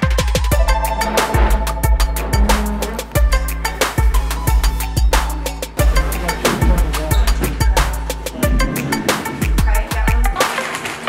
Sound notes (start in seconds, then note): 1.0 furniture moving; 10.4 bag crinkling